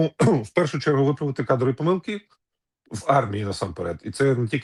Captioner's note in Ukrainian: прочищення горла